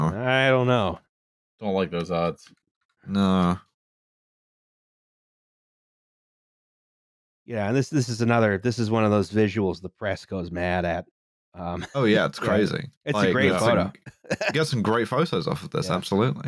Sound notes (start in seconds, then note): 13.2 laughs